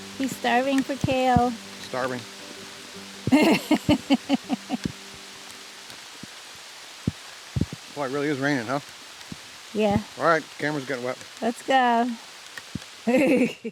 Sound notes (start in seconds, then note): 3.3 woman laughs; 13.0 chuckles